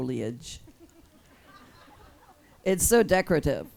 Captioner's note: audience laughs